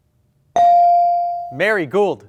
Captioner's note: bell ring